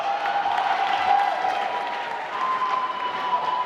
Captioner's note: applause